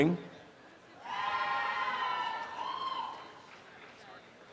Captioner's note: applause and cheering